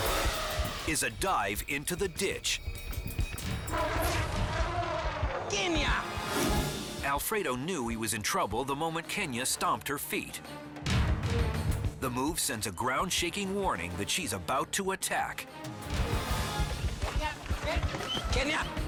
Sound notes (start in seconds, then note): 0.2 elephant trumpets; 3.7 elephant growls